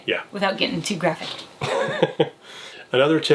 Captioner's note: laughs